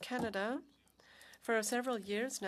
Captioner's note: speaking French